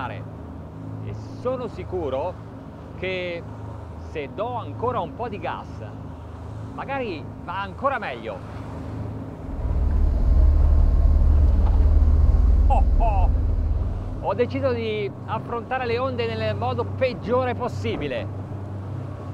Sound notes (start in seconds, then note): 12.6 laughs; 14.4 speaking in foreign language